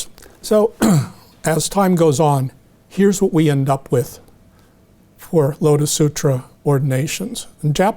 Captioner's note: clears throat